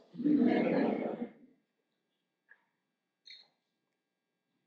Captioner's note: audience laughs